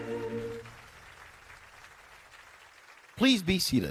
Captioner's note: applause